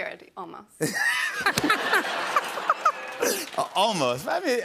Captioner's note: laughter